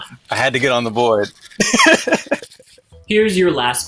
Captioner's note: laughs